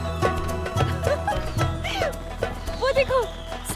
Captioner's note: Amal laughing